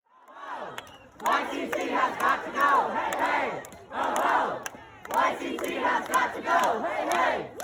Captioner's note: chanting: "hey hey, ho ho, YCT has got to go"